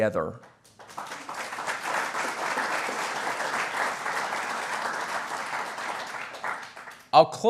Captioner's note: applause